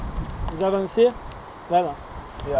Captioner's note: French